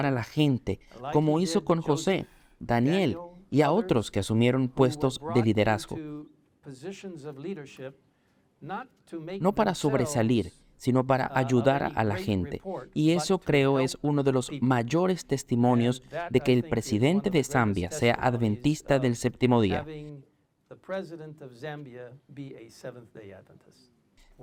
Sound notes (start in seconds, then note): 6.3 Hablando idioma extranjero; 20.1 Hablando idioma extranjero